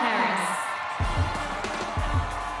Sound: cheers and Applause

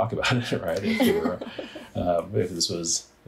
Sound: all laugh

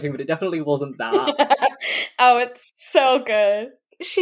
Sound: laughs

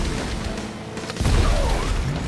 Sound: shouting

